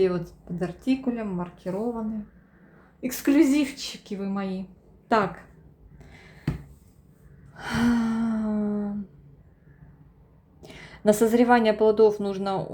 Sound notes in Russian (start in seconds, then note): 7.5 тяжело вздыхает; 7.5 вздыхает